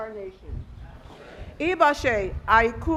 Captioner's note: speaking Foreign Language